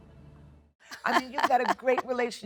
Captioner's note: Jennifer laughs